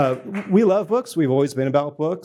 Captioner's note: applause